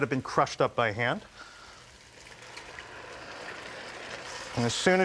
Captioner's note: pan sizzling